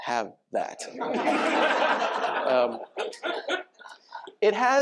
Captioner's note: laughter